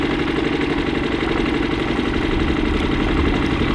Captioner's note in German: Motor brummt